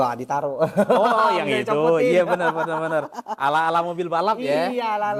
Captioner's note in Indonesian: tertawa